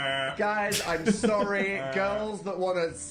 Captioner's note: laugh